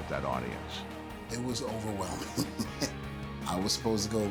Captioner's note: laugh